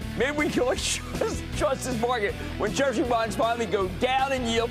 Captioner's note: laughter